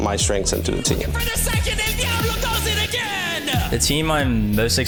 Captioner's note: Caster yelling